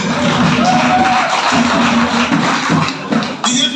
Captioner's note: a round of applause